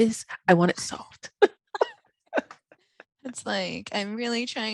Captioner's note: laughing